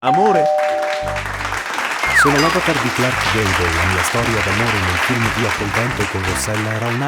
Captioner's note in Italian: Applauso